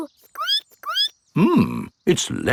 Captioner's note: squeaks